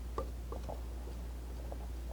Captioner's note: scratching